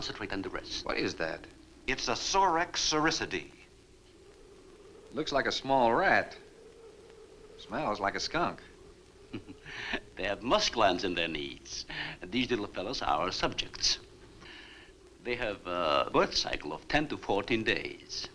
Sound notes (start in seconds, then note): 9.2 chuckles